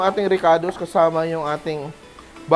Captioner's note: sizzle